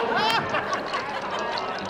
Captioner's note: patrons cheering